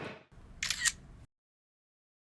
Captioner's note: camera Shutter